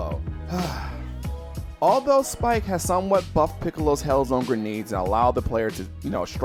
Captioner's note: sigh